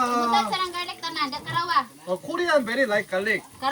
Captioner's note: in Bisaya